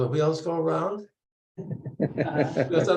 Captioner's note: laughter